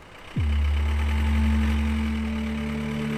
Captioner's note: engine running